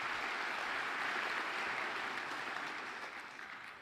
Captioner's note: applause